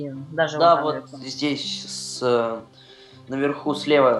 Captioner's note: epic weird sounds